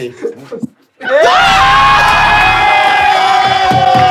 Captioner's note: risos